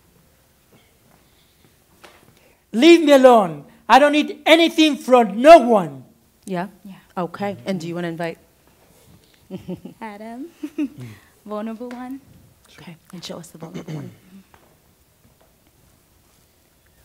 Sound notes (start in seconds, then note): 9.5 laughs; 13.7 clears throat